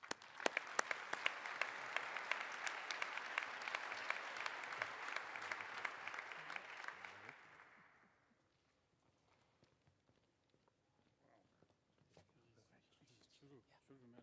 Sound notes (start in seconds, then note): 3.1 applause